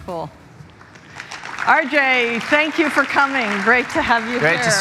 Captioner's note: applause